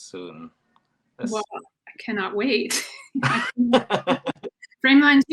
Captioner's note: laughing